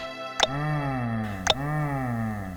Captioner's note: groan